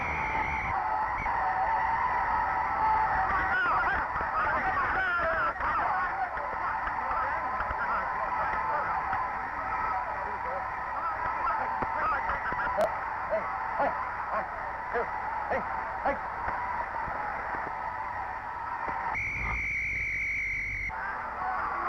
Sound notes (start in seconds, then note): 0.0 referee whistling; 3.7 shouting; 13.3 grunting; 18.9 referee whistling